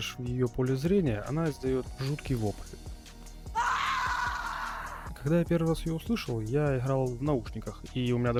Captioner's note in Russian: крик